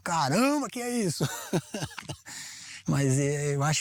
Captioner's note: laughter